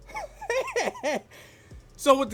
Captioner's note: laughs